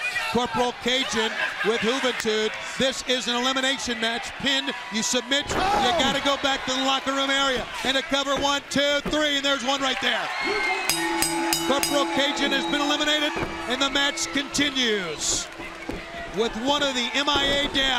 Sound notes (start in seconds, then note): 10.8 bell ringing; 11.0 crowd cheering